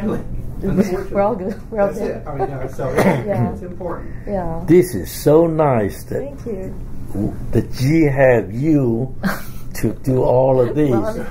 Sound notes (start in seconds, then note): 0.7 laughs; 9.2 laugh